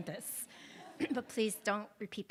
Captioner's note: attendees laughs